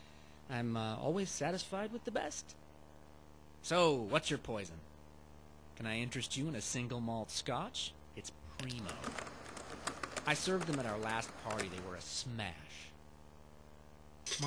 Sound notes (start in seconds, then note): 8.6 keyboard typing